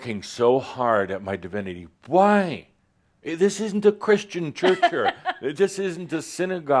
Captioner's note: she chuckles